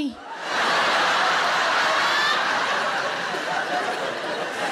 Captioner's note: audience laughing